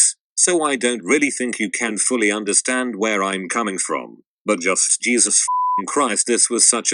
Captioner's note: beeping